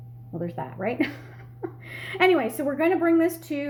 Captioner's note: laughing